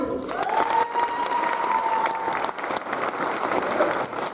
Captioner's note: audience applauds